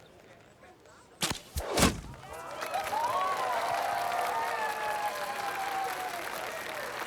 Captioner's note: cheering